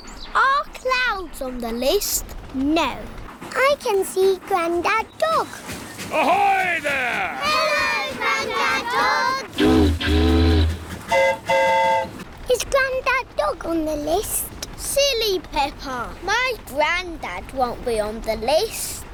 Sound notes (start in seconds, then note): 9.5 boat horn honks; 9.5 train horn toots